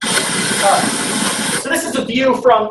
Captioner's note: wind howling